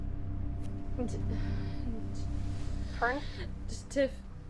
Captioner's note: slow ominous music; Fern stammers